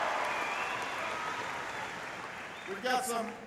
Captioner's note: applause